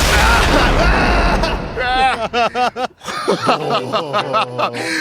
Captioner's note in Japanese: 叫び声; 笑い